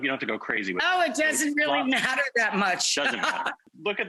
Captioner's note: laughing